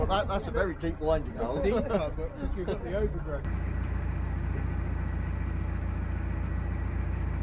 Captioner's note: chuckles